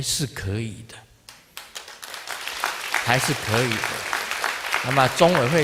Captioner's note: audience applause